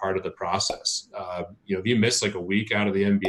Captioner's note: popping sound; popping sound